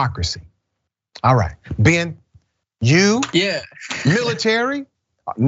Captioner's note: laugh